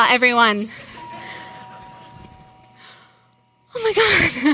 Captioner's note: doorbell dinging